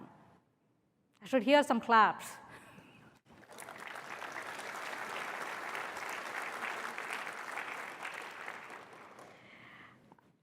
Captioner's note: applause